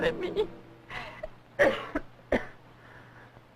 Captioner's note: coughing